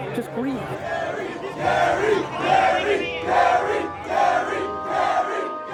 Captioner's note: crowd